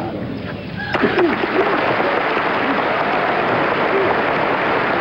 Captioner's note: audience applauding